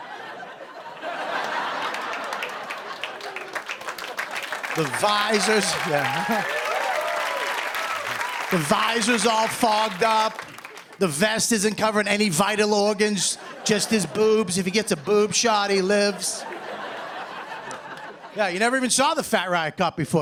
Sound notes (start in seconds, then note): 0.1 laughter and applause; 6.1 cheers and applause; 16.3 laughter